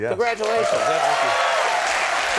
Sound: audience cheering; audience clapping

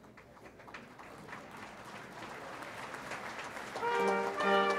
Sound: audience applauds; brass band plays orchestral music

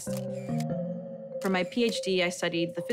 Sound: camera shutter clicking

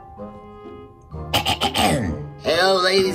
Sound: clears throat

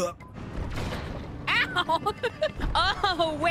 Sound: laughter

